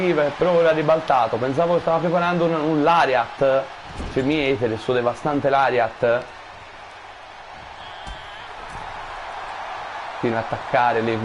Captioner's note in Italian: Applauso